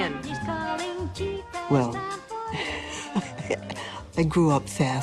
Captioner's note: risas